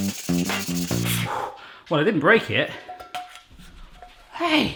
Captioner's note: breathes out